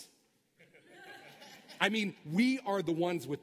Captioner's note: laughter